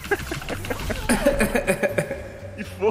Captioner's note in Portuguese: risos